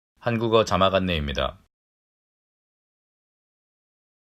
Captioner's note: male speaking in Korean